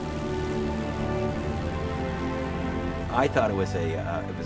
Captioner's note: aircraft engine roaring